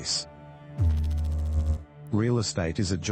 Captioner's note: electrical noise